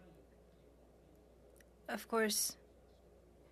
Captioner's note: speaking French